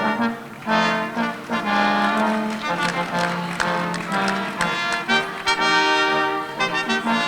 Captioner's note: audience applauding